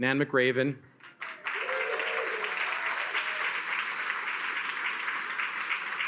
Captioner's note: attendees cheer and applaud